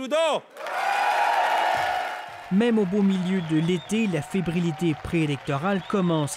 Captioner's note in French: applaudissements